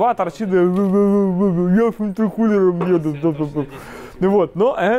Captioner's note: fufufufu I’fe gof an infecoofer fufufufu